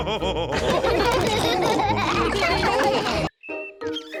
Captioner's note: all laughing